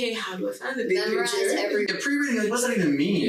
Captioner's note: group chattering